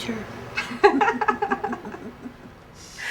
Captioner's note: both laughing